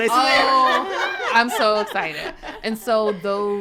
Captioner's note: women laughing